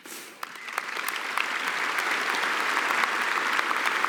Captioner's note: applause